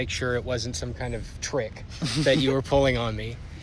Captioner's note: laughter